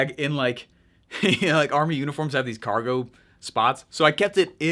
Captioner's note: laughs